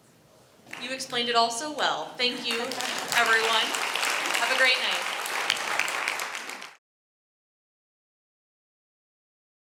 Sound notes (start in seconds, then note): 2.4 applause